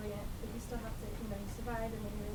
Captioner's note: voice muffled